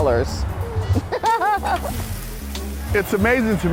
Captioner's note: laughing